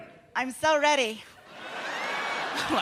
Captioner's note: in effeminate voice